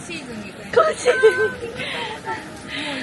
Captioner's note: laughs